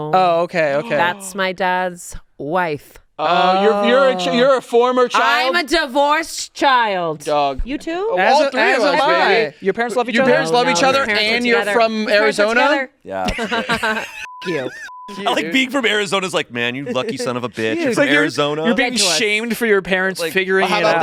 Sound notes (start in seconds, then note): 13.2 laughs; 14.2 beep